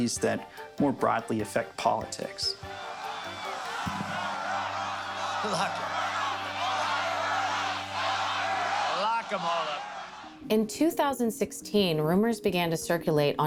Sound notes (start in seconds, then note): 2.5 crowd; 4.5 laughs; 6.9 crowd